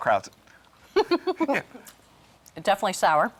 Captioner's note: laughing